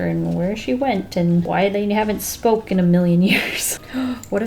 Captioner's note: laughs